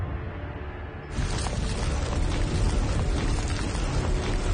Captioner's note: scraping